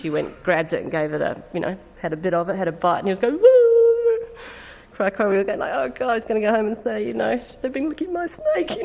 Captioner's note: crying imitation